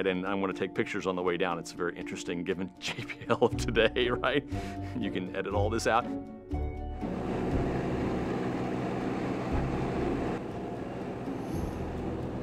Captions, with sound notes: And I'm gonna take pictures on the way down. It's very interesting given JPL today, right? You can edit all this out. (aircraft engine roaring)